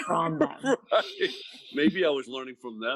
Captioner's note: laughing